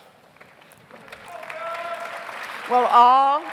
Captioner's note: audience applauds; audience cheers